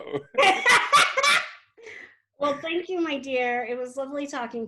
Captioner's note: laughs